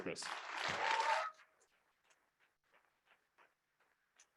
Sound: audience clapping

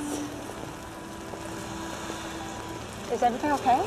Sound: exhaling

